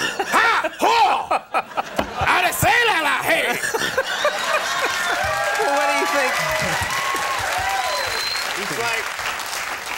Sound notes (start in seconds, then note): 4.2 audience clapping